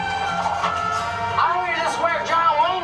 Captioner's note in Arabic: صوت صفير في الهواء